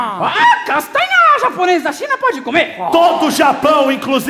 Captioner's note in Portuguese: imita chinês